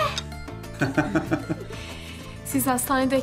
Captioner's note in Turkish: Gülme sesleri